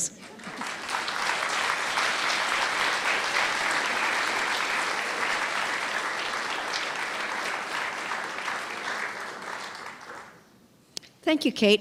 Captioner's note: clapping